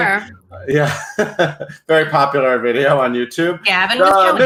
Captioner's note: laughs